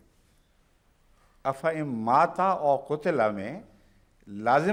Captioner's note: Arabic